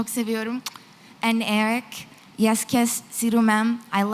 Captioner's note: non-english